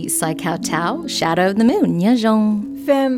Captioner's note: non-English language spoken